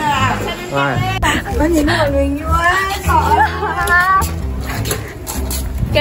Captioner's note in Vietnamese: thở gấp